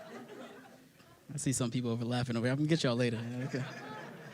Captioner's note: laughter